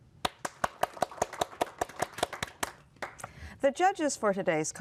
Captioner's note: applause